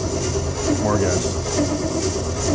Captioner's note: engine noise